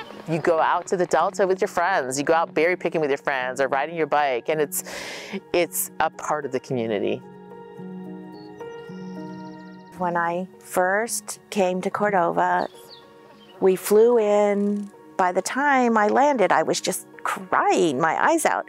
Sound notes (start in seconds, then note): 0.0 birds honking; 7.0 birds chirping